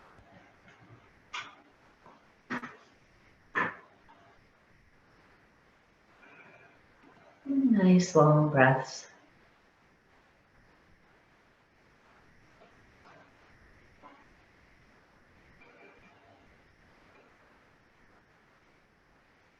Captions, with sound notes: Nice long breaths. (silence)